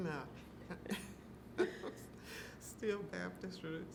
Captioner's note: laughing